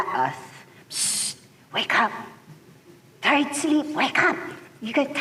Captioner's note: psst